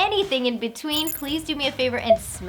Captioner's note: electronic beeping